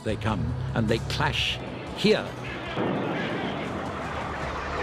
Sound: explosions booming

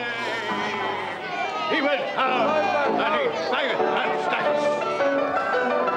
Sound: declaims

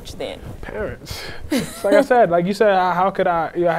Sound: laughing

